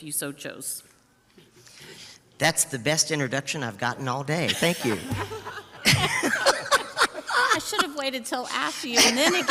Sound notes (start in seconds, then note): 4.5 crowd laughing